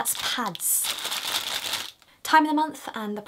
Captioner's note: rustles pad packaging